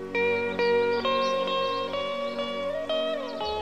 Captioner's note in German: Vogelgezwitscher